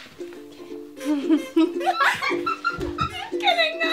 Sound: laughter

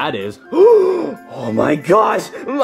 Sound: Luigi gasping

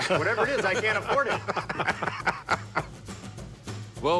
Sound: laughter

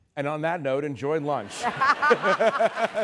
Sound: laughter

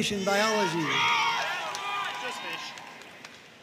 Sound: audience cheering and applauding

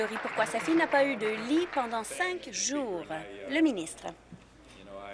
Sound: applause

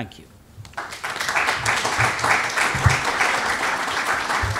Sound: applause

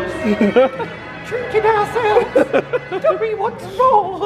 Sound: in a minuscule voice

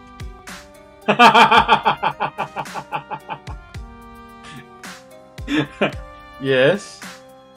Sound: laughs

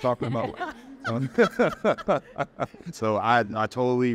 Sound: all laughing

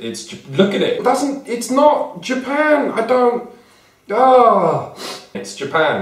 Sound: despair, sniffs

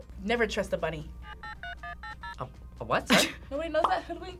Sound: modem beeps

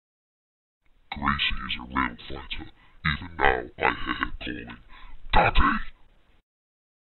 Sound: demon voice

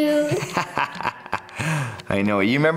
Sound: father laughs

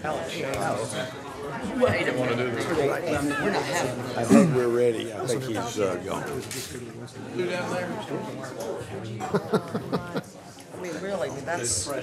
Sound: room chatter

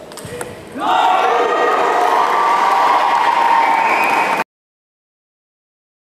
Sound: applause

